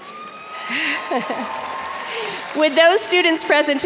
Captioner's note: audience cheers and applauds